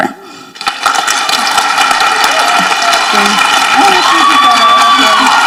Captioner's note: people applauding and cheering